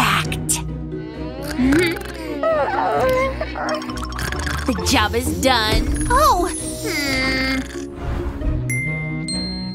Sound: snoring

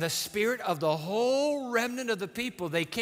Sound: none

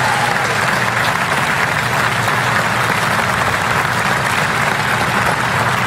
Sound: applause

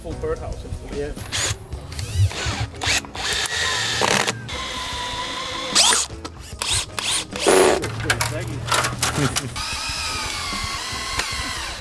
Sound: industruous sounds of rapid aviary residential growth

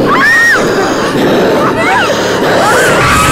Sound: ghostly voice

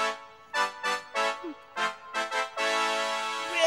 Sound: horns blowing

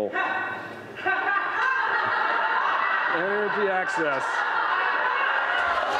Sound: protesters laugh, interrupting the speaker

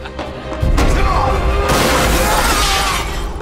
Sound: glass shatters; screaming; loud thud

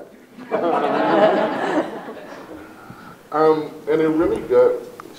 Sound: everyone laughs

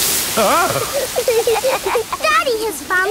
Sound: laughing

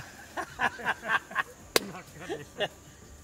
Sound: laugh

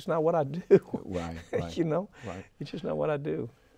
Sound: Mike laughing

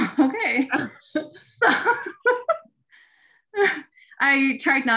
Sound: laughing

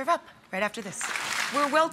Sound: audience clapping

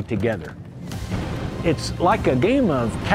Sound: cannons firing

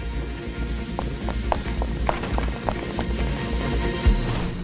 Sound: footsteps pattering

